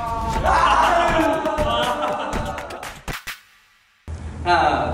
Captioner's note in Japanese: 歓声